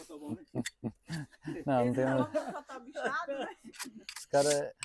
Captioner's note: laughter